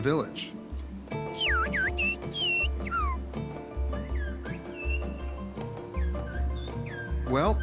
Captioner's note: whistling